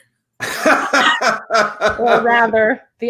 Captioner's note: laughing